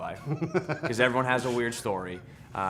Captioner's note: laughs